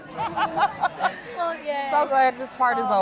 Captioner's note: laugh off camera